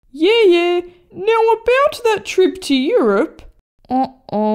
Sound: none

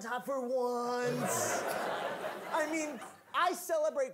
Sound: audience laughing

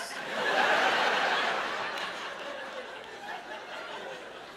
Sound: laughter

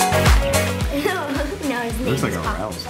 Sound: laughs

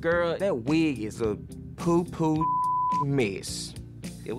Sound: beep

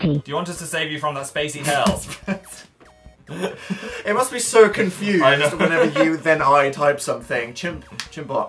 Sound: laughs

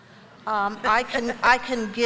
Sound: laughter

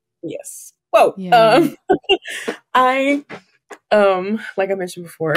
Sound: laughs

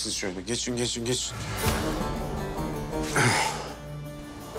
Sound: tension music; clears throat

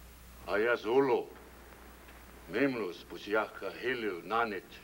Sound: speaking in foreign language

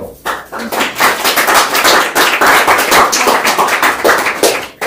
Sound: applause

